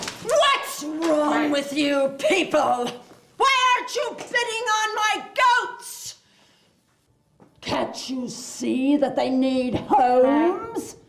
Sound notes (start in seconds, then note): none